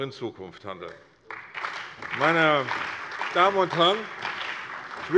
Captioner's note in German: Beifall bei der CDU und dem BÜNDNIS 90/DIE GRÜNEN